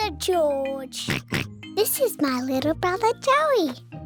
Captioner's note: oinks